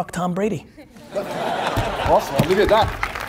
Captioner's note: audience laughs